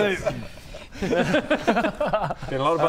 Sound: concerned laugh

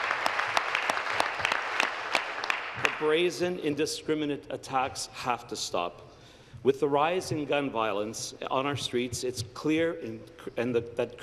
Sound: applause

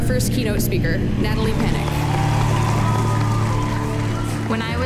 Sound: applause

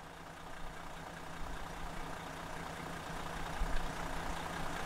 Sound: engine running

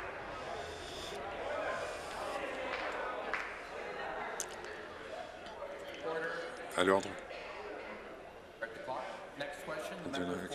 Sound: applause

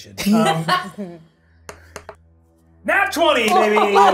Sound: laughs

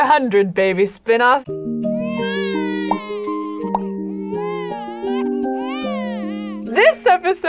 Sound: lullaby music; baby crying

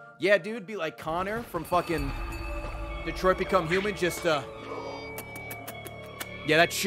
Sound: eating noises

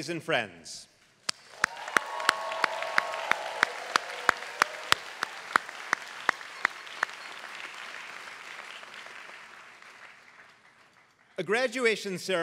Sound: applause

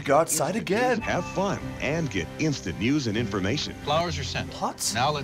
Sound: voice-over

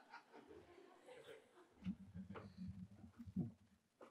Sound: audience laughing

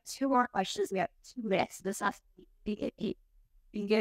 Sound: speaking foreign language

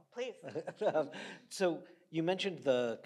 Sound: laughs

